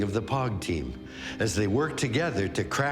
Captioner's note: none